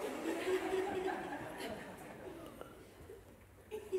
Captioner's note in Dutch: gelach